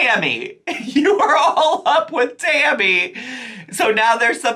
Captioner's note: laughing